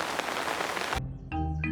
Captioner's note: downpouring